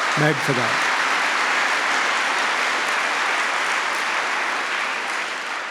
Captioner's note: applause